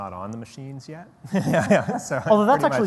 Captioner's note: laughter